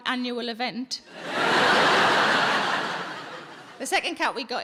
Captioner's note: audience laughing